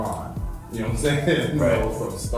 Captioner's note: laughs